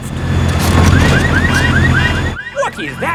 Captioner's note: car alarms blaring